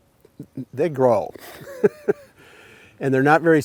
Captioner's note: laughs